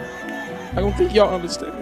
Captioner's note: chanting